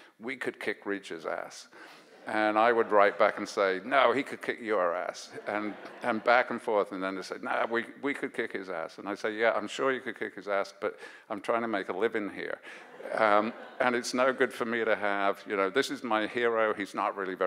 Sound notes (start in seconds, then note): 12.7 audience laughs